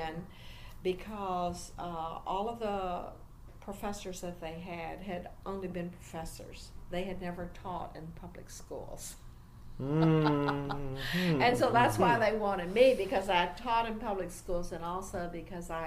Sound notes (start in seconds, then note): 9.8 laughs